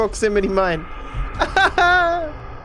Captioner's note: laughs